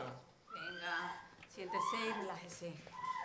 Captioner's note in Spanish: UNA MUJER GRlTA